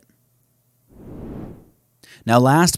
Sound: swooshes

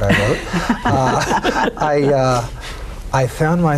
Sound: laughing

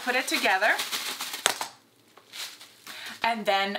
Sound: polythene paper crackles

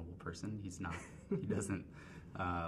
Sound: woman chuckling

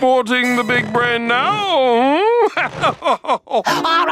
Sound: laughs

